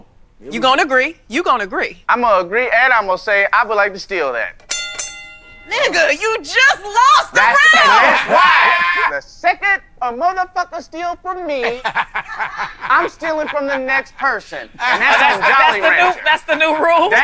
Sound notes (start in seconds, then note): 4.6 ding ding